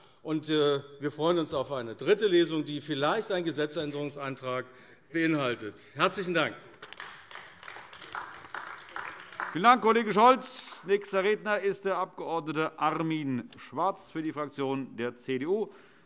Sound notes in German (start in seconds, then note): 6.6 Beifall AfD